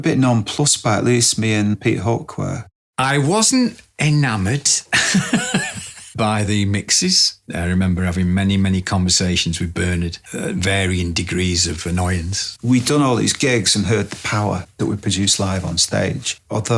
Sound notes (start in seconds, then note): 4.9 laughs